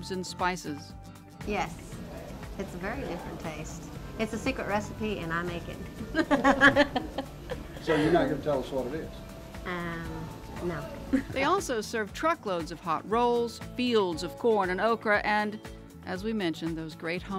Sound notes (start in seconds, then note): 5.8 laughs